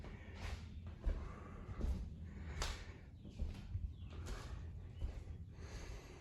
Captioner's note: footsteps